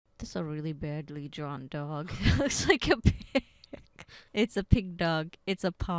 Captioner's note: laughing